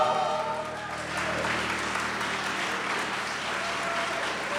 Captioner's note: audience laughing